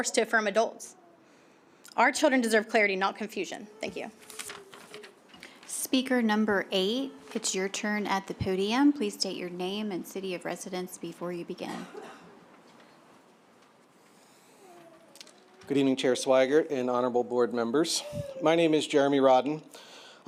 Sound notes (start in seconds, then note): 3.9 paper rustling; 12.3 silence